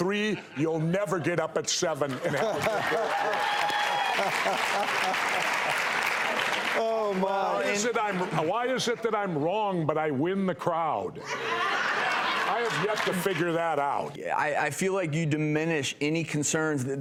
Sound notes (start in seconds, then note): 1.9 audience clapping and laughing; 12.2 audience clapping